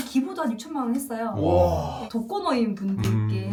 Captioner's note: exclaims in awe